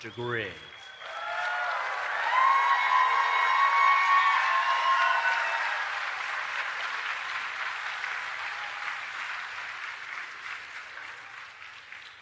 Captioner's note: applause